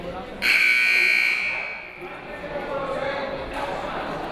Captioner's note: timer buzzes